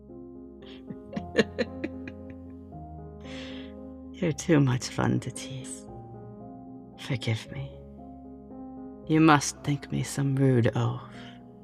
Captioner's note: laughing